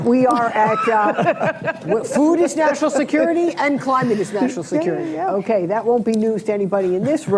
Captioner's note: laughter